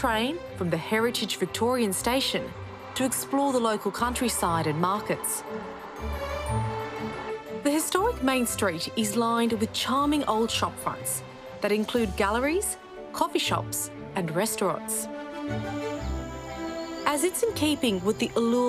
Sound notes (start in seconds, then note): 16.0 birds chirping